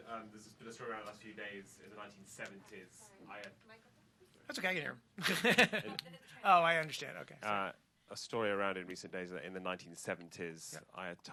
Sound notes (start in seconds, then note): 5.2 laughter